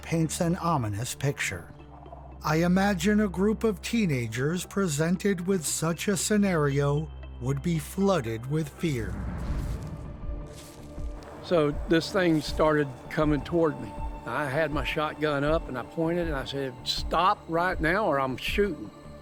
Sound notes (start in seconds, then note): 9.1 feet treading; 9.4 dramatic music